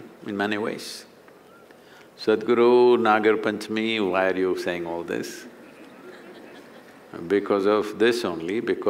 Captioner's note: laughter